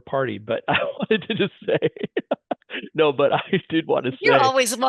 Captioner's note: laughing